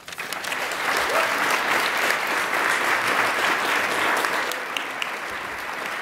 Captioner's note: attendees applaud